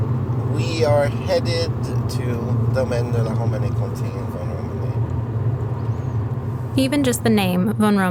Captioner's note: driving sounds